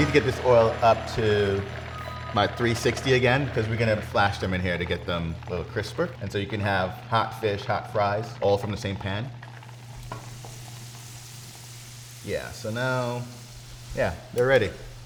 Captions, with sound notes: I need to get this oil up to my 360 again 'cause we're gonna have a flash them in here to get them a little crisper. And so you can have hot fish, hot fries all from the same pan. [oil bubbles] Yeah, so now yeah, they're ready.